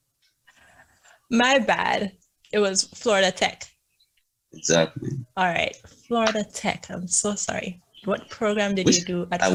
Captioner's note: laughs